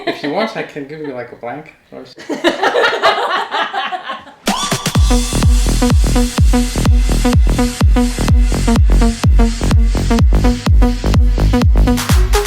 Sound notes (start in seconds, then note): 2.2 laughs; 4.4 upbeat music